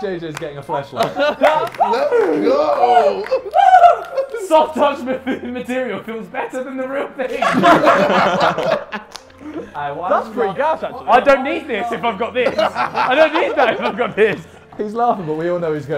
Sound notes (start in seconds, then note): 7.3 Sidemen laughing